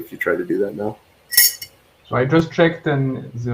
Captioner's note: clanking